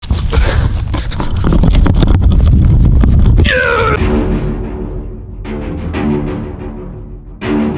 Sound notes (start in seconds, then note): 0.0 rapid breathing; 3.4 runner yells; 3.5 dramatic music